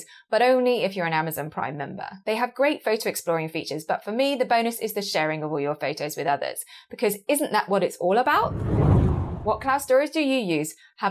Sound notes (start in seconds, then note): 8.3 screen whooshing